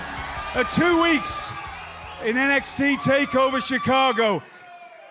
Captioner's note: cheers and applause